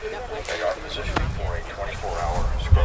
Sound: man on Radio

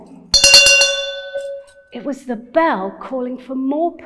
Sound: bell ringing

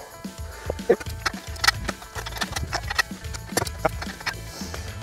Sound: clicking noise

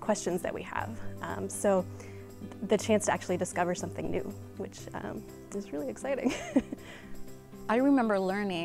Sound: giggle

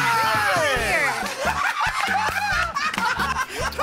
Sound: laughter

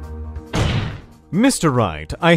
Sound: slam

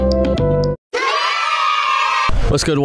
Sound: hooray sound effect

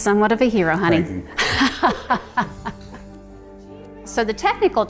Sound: laughing

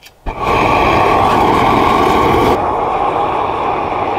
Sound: fire whooshing

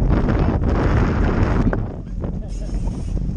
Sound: wind rustling

